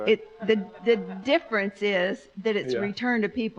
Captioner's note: audience laughs